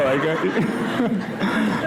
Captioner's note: laughter